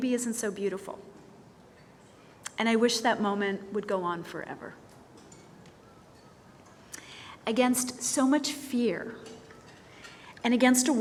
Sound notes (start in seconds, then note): none